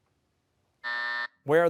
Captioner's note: buzzer